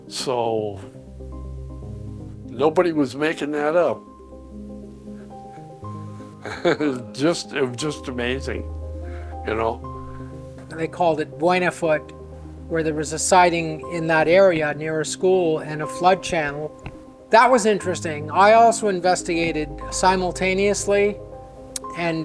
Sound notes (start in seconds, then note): 6.4 laughs